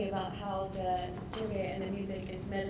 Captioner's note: none